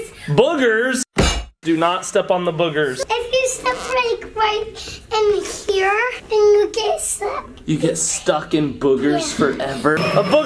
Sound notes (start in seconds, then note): 1.2 clang